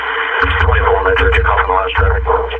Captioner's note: police speaking on didio